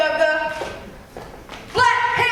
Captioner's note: stomping